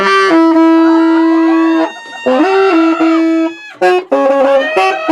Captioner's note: loud saxophone music; screaming; loud saxophone music